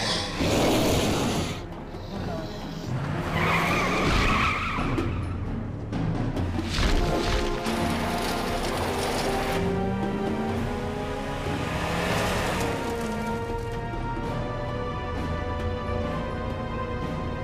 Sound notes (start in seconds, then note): 0.0 sphinx roaring; 3.5 tires screeching; 6.1 suspenseful music